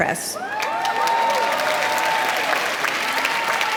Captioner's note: applause